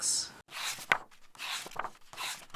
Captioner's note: pages turning